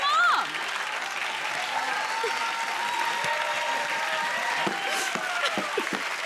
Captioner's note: cheers and applause